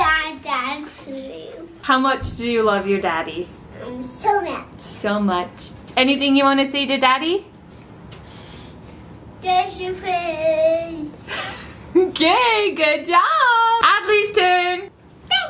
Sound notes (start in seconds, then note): 12.1 laughs